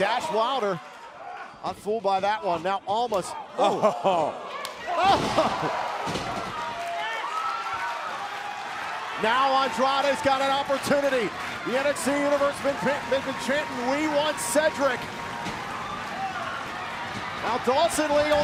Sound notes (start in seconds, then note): 5.4 crowd cheering